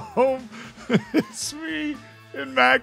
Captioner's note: laughs